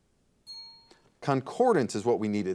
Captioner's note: bell rings